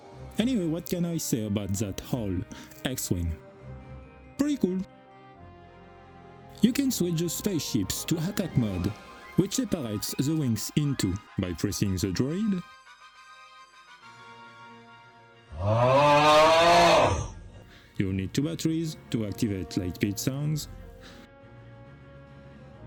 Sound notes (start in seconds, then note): 15.6 snoring